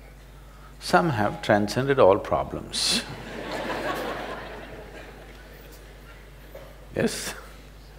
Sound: laughter

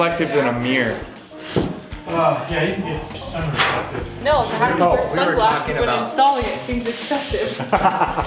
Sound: indistinct chatter

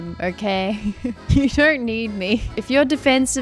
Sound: laughs

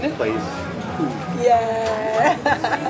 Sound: laughs

